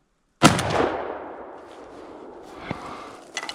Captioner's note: gun shot